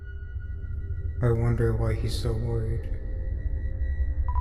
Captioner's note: emotionless